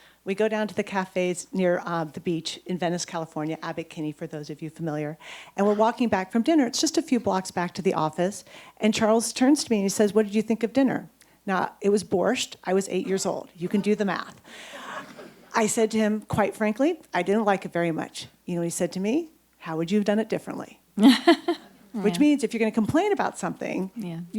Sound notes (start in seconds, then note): 14.8 audience chuckles; 21.0 laughs